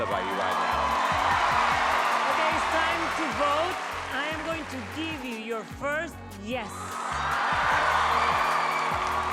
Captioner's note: cheering